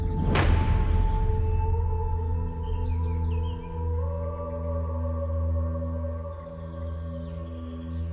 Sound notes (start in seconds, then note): 3.8 birds chirping